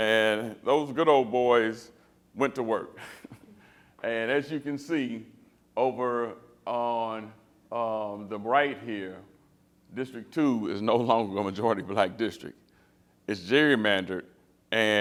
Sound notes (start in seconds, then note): 3.0 laughter